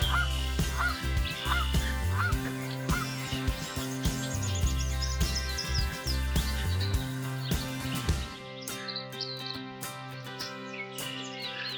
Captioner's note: birds chirping